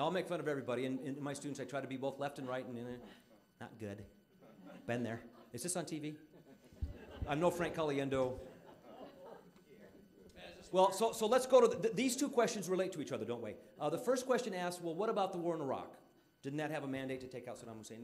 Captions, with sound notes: I'LL MAKE FUN OF EVERYBODY, AND WITH MY STUDENTS, I TRY TO BE BOTH LEFT AND RIGHT-- NOT GOOD-- BEEN THERE. IS THIS ON T.V.? (audience laughing) I'M NO FRANK CALIENDO. WELL, SO LET'S GO TO THE-- THESE TWO QUESTIONS RELATE TO EACH OTHER, DON'T THEY? THE FIRST QUESTION ASKS, "WELL, WHAT ABOUT THE WAR IN IRAQ?" DIDN'T THAT HAVE A MANDATE TO TAKE OUT SADDAM HUSSEIN?